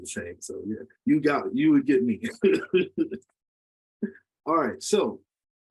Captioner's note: laughs